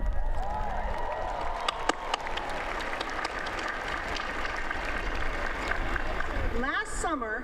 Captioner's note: applause